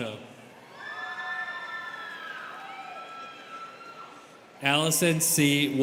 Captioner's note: students cheering